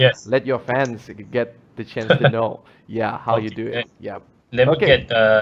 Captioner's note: chuckles